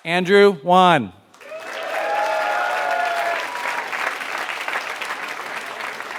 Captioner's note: applause